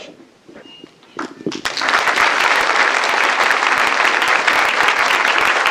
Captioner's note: applause